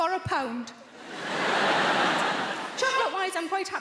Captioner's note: audience laughing